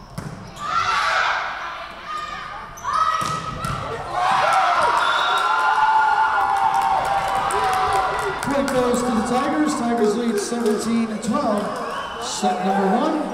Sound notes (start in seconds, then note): 3.8 crowd cheering; 4.9 whistle blowing